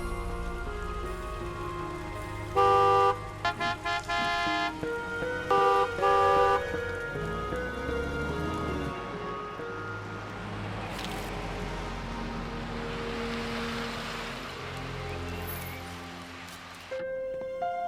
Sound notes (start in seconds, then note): 2.5 horns honking; 6.5 soft mysterious music continues